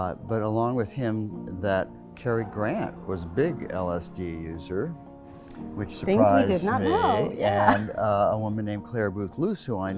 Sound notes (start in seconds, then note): 6.6 laughs